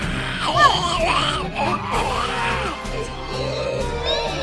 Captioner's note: priest growling